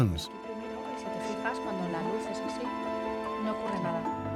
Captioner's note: low chatter in Spanish